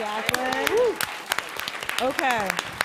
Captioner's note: applause